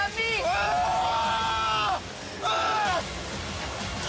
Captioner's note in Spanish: Rugido de Saúl, seguido de exclamaciones de ira